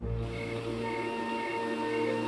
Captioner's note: crickets chirping